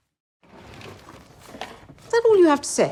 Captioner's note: drawer clanging